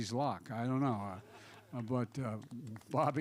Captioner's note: laughter